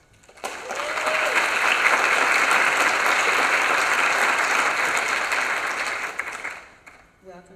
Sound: applause

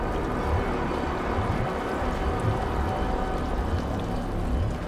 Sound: liquid dripping

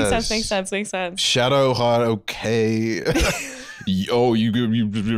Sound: mockingly

